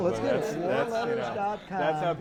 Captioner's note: laughter